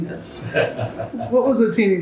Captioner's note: laughs